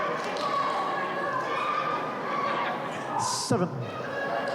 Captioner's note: claps